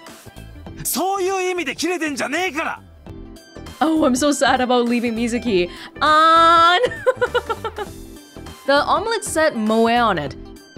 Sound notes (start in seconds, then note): 6.8 chuckles